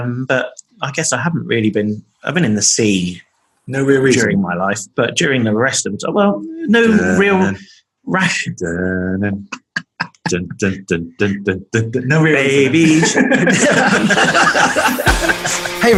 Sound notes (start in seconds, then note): 8.2 humming " " music; 8.2 laughing; 15.0 upbeat music